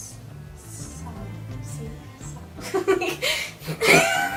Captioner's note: laughter